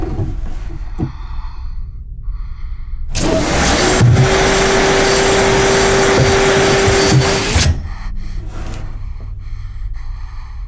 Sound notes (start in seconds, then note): 0.4 breathing heavily; 3.1 vacuum whirring; 7.3 breathing loudly